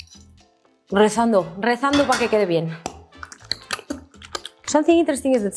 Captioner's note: speaks in Spanish